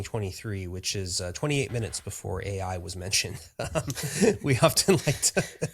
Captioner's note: laughs